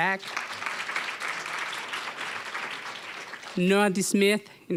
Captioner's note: applause